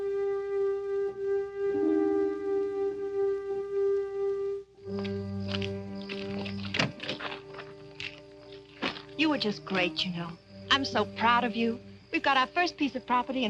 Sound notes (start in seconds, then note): 5.0 insects chirping